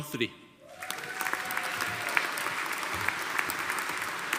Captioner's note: audience applauding